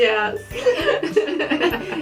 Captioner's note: laughing; laughter